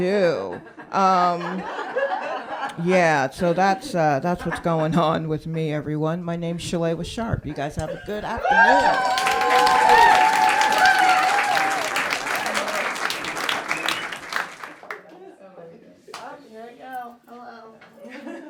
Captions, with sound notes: (laughter) So that's what's going on with me, everyone. My name's Shawela Sharpe, you guys have a good afternoon. (applause) - Oh, here I go. Hello.